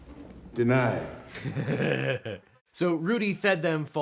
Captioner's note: laughs